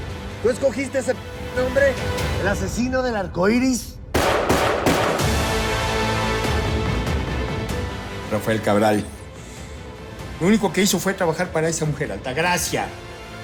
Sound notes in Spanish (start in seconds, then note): 4.1 Disparos